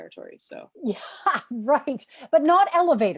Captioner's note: laughter